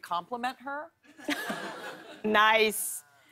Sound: laughter

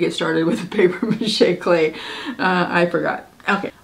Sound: laughing

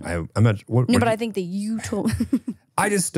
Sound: laughs

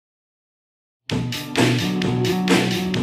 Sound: silence

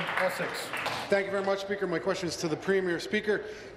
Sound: applause

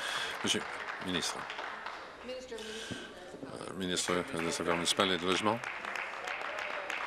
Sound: applause

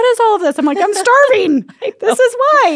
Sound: laughs

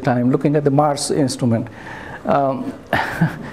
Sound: chuckles

